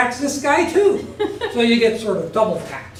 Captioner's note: laugh